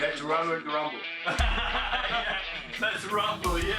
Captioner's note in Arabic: يضحك المدرب